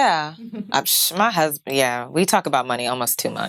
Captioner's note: puffing